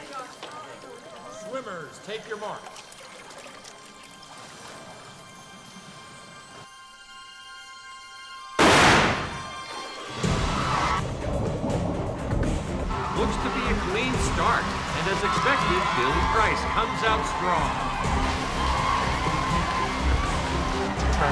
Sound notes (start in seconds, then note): 3.3 tense music; 8.6 starter's gun blasts; 18.1 adventurous music